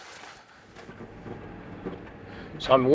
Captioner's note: vehicle rattling